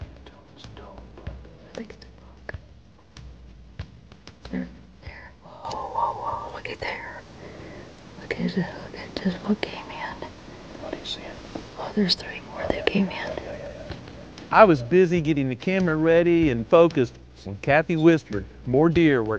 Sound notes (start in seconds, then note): 0.5 whispering; 7.3 whispering